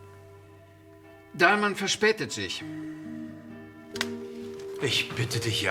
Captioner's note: speaking in foreign language